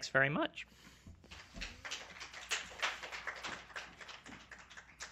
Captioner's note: applause